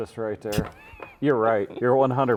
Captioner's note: laughing